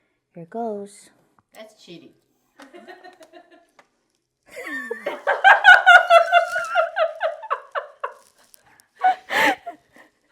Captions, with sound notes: Ok. Here goes. That's cheating. [Laughter]